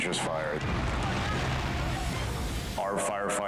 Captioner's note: explodes